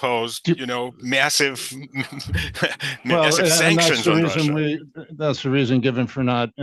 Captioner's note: laughs